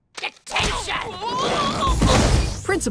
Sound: groaning

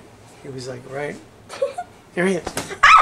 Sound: laughs

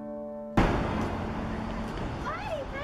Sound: bam

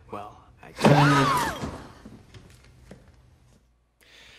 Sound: screams

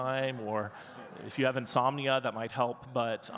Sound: audience laughing

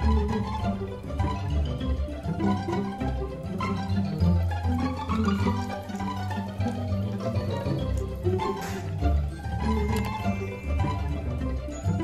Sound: laughs

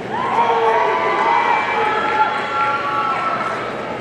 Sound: audience cheering

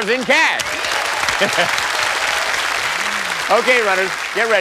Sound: cheers and applause

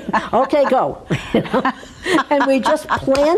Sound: laughs

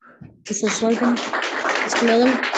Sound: audience clapping

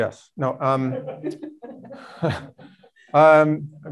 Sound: both chuckling

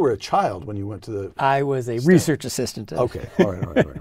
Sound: laugh

